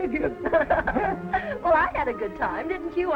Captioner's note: Marie laughs